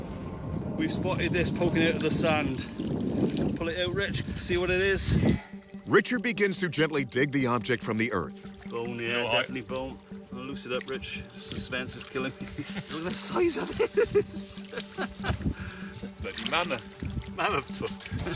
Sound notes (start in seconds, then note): 12.4 laughing